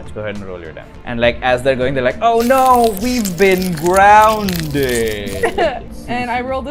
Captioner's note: laughter